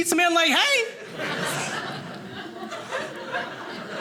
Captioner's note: audience laughing